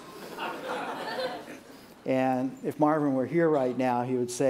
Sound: laughter

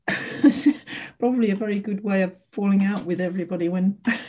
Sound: laughs

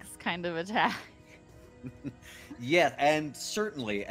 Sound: chuckles

